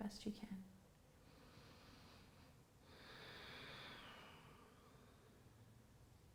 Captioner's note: breathes deeply